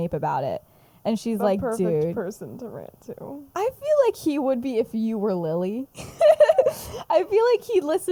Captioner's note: laughs